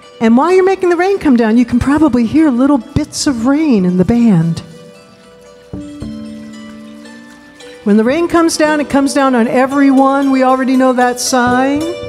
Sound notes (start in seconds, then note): 4.5 light music; 4.5 water trickling